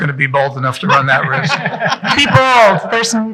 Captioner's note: people laughing